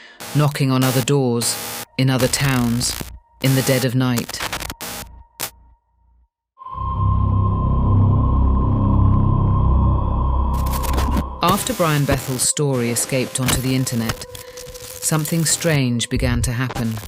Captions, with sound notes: knocking on other doors, in other towns, in the dead of night. (static, music fades) (ominous droning music) After Brian Bethel’s story escaped onto the internet, something strange began to happen.